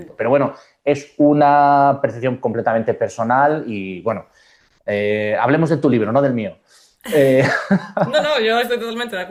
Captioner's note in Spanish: risas